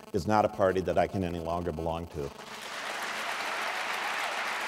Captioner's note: applause